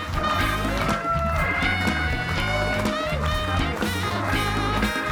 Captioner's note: audience cheering